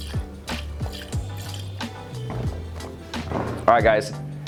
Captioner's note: liquid sloshing